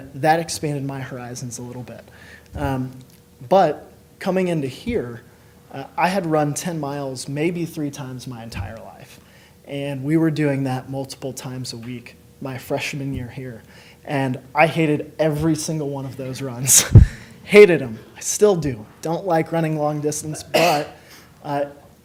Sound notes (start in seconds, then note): 17.2 laughs